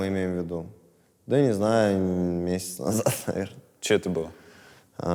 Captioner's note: chuckles